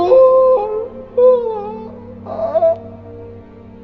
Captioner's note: crying